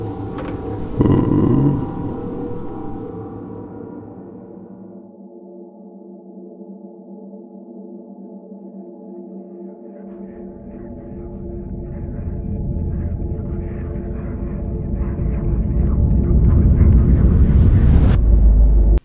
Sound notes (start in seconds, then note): 0.7 bin hand groans; 9.5 distant whispering; 14.5 intense tone builds then stops abruptly